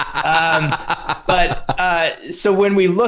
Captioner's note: laughter